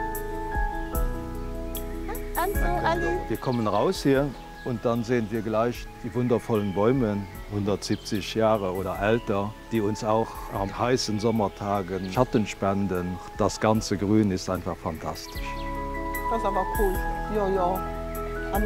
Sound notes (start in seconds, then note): 0.7 birds chirping